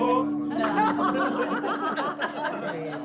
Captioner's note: laughter